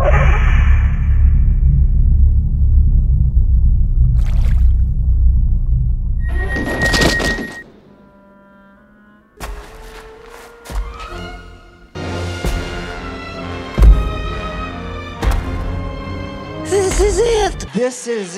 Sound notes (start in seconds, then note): 0.3 liquid Sounds; 9.3 footsteps; 11.9 dramatic music